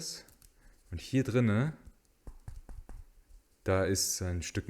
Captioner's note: knock knock